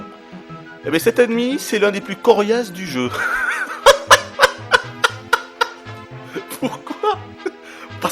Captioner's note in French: rires